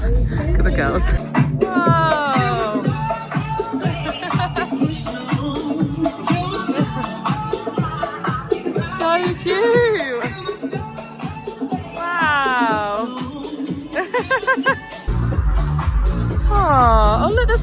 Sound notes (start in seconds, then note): 1.5 electronic music plays; 13.9 laughs; 15.4 upbeat music plays